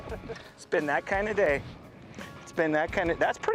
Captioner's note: laughter